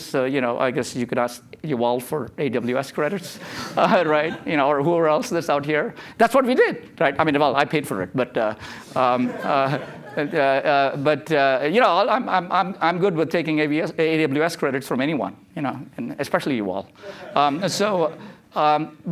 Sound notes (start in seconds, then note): 9.0 laughter